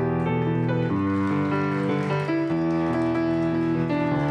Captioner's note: applause